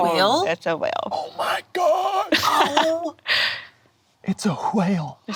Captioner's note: laughs